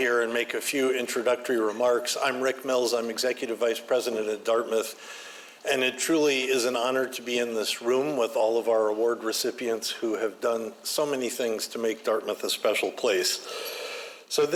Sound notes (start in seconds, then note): none